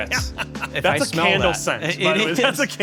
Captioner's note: laughs